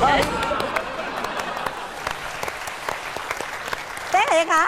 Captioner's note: claps